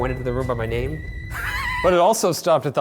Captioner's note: laughing